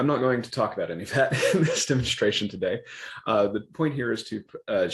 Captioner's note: laughs